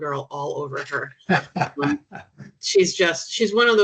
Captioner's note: chuckling